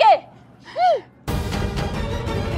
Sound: gasping

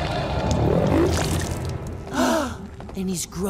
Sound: gasping

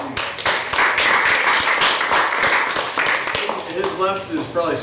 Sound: audience applauds

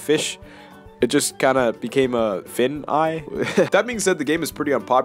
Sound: laugh

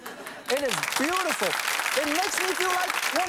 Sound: audience Claps

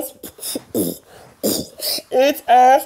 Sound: beatboxes

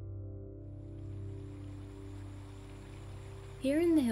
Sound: running water

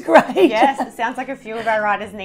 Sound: laughs

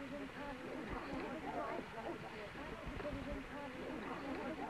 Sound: indistinct chattering

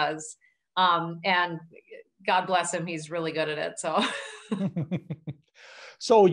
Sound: laughing

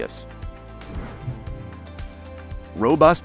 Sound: air whooshes

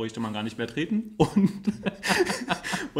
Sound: laughs

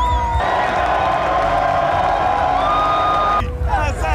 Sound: people clamoring

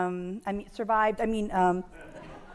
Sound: audience laughs

